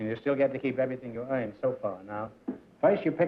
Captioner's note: none